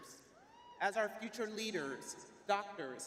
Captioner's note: crowd cheering